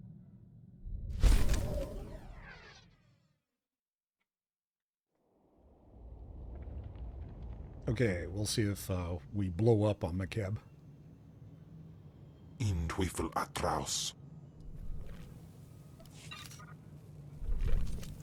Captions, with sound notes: [wind howling] Okay, we'll see if we blow up on McCabe. [speaking in foreign language]